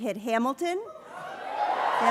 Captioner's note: cheering